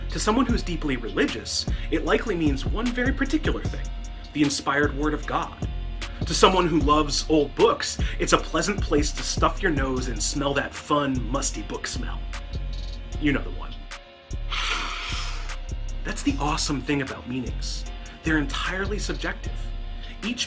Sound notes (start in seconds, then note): 14.5 sniff